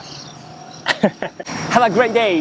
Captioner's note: chuckles